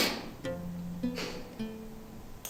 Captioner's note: sobs